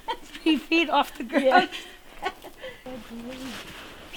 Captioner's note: laughing